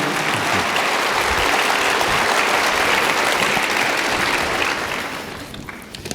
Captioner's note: audience applauding